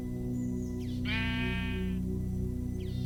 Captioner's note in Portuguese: Música de suspense; ovelha berra